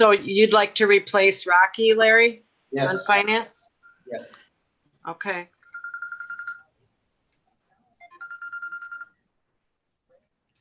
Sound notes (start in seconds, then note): 6.2 phone trilling